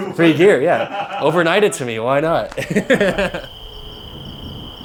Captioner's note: laugh